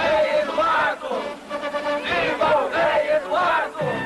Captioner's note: cheering